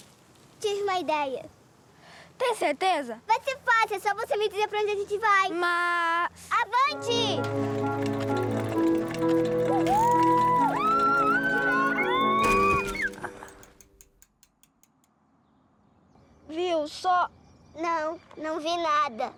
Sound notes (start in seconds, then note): 7.5 Música alegre; 9.4 gritan